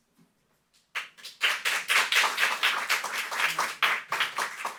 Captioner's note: audience applauding